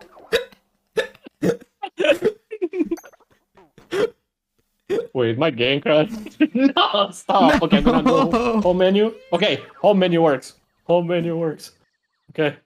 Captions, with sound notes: [laugh] [laugh] [gasping for air quite possibly] [gasping for air quite possibly] Wait, did my game crash? [laugh] Wait, did my game crash? [laugh] [laugh] No, stop! [laugh] No, stop! [laughing] Oh no! [laugh] No, stop! [laughing] Oh no! [laugh] No, stop! [laughing] Oh no! [laughing] Oh no! Home menu! [laughing] Oh no! Home menu! [laughing] Oh no! [laughing] Oh no! [laughing] Oh no! Okay!, home menu works. Okay!, home menu works. Home menu works. Home menu works. Okay. Okay.